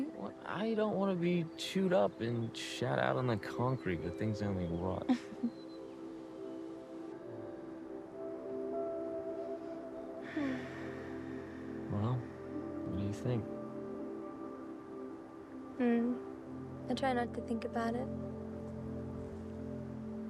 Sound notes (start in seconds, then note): 5.1 Betty laughing; 7.7 gentle music